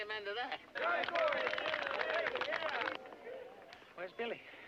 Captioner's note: crowd clapping